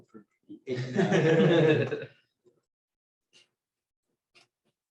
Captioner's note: laughter